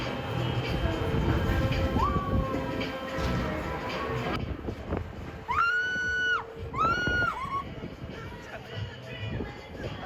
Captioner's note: warning: screaming